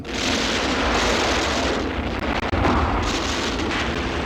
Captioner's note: guns roaring